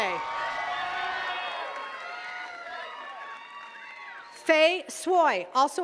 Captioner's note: attendees cheering and clapping